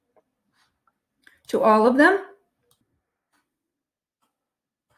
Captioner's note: mouse clicking